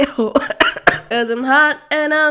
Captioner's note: coughing